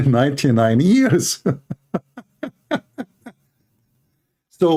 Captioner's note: Ketawa